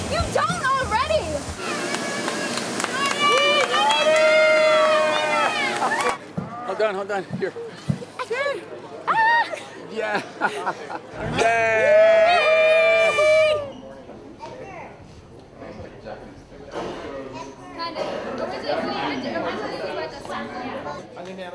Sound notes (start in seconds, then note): 1.6 cheering; 9.1 laughing